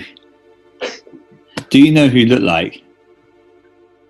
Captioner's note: sighs